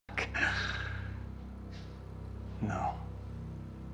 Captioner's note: Dodds laughing